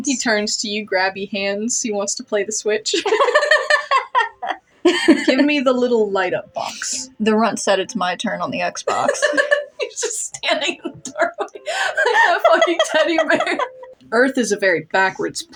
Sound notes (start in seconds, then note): 3.0 both Laugh; 3.0 laugh; 8.9 laugh; 8.9 laughing; 13.6 laugh